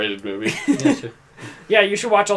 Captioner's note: laughs